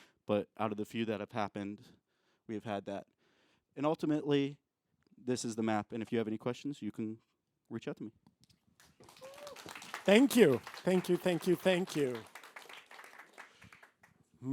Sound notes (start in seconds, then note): 8.8 applause